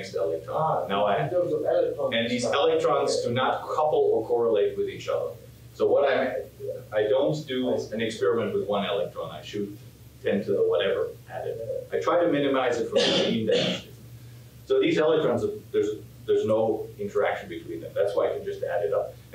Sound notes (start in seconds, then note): 12.9 coughing